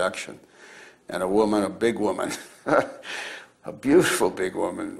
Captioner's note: laughs